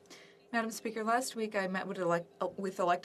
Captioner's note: speaking French